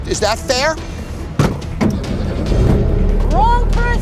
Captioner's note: door slams